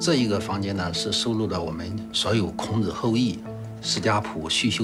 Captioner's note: hablan un idioma extranjero